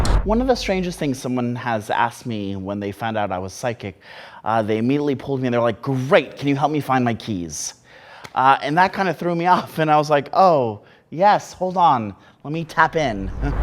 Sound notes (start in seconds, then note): none